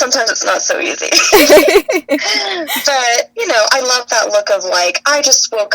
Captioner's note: laughs